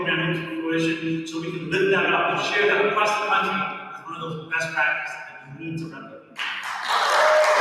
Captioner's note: applause